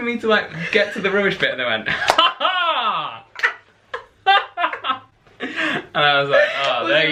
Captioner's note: laughter